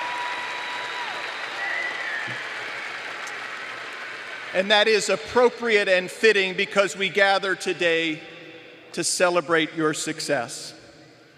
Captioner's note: applause